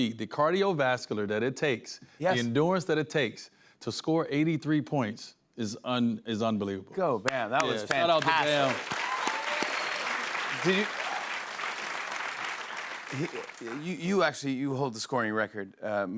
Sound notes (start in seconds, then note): 9.6 cheers and applause